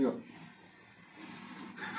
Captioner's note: laughs